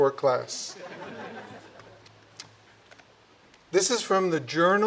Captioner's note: audience chuckling